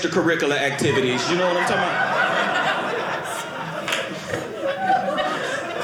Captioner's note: audience laughing